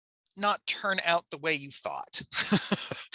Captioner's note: chuckles